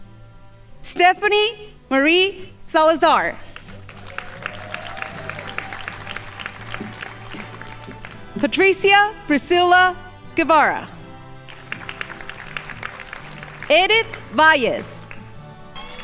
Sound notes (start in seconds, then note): 3.5 crowd applauding; 11.2 crowd applauding